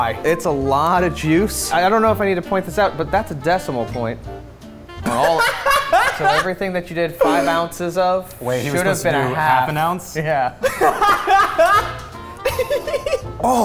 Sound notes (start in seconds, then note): 5.0 laughing; 10.8 laughing